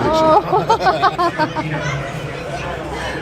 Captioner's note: laughing